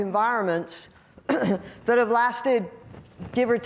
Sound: coughing

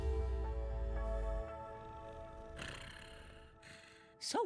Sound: purring

